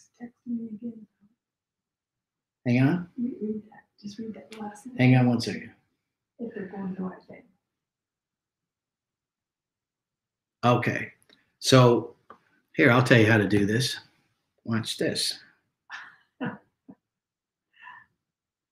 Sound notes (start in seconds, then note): 6.4 lady speaking faintly; 16.4 lady chuckles